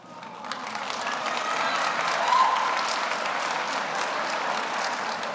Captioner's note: audience applauds